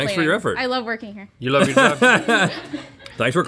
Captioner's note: laughs